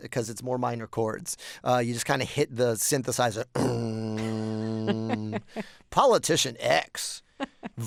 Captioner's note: imitating synthesizer